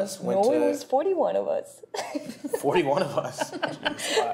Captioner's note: laughter